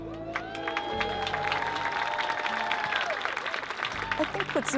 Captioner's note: crowd cheering